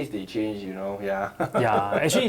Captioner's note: laughs